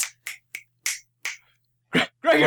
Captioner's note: snapping